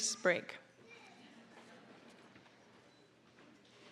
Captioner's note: audience chuckling